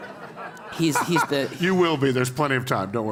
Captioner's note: laugh